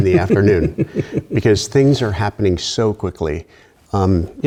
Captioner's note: laughter